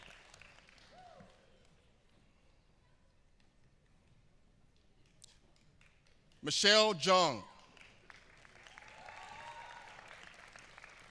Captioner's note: applause